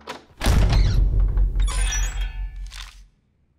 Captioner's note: door creaks